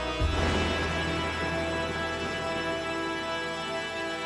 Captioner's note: thunder rumbles; dark music continues